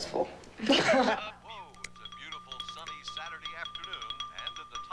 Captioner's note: radio